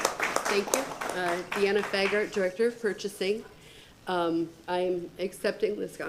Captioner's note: applause